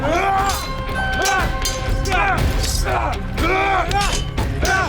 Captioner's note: dramatic music; all moaning; dramatic music